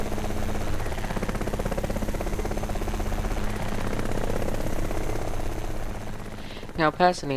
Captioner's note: helicopter Sounds